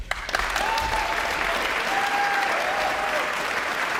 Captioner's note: audience applauding